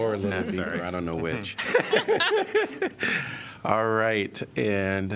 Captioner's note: laughter